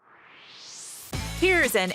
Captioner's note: swoosh